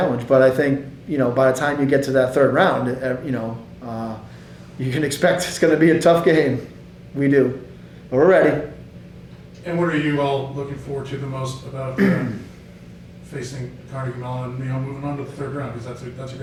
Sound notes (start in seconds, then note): 11.9 clearing throat